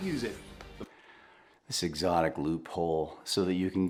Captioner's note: sighs